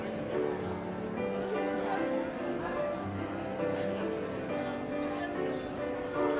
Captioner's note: audience chattering; light piano music